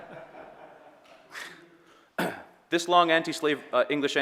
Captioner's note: audience laughing